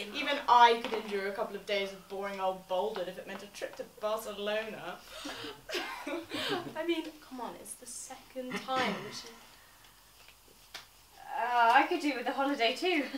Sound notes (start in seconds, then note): 5.2 laughing; 8.5 clears his throat loudly